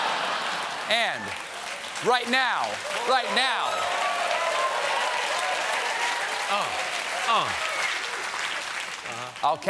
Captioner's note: applause